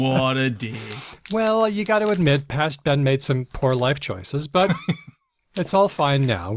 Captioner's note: laughs; laughs